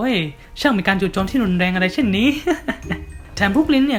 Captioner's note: laughing